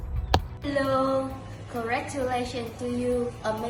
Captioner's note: speaks foreign language